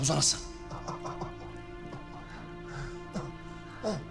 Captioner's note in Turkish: İnleme sesi